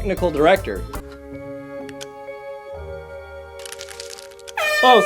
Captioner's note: air horn goes off